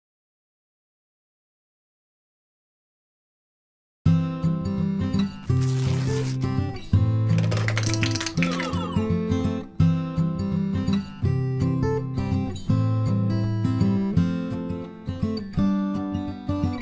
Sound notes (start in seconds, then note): 4.4 upbeat guitar music; 7.3 contents spill and clatter; 10.1 upbeat guitar music